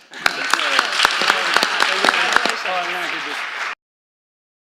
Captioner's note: applause